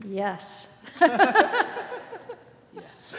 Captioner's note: both laughing